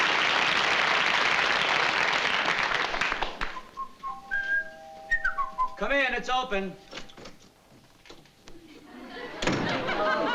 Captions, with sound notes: [DOORBELL] [WHISTLING] Come in. It's open.